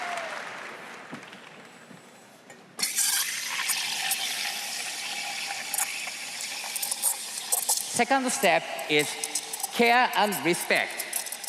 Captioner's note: applause